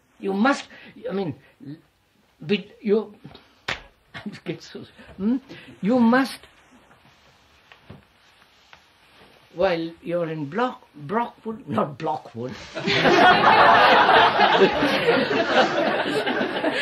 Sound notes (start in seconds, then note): 12.7 laughter